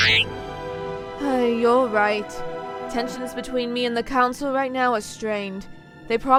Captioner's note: t3-m4 beeps; sighs